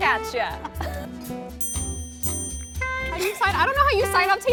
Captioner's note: laughs